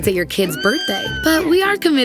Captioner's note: horse neighs